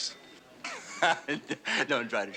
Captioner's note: laughs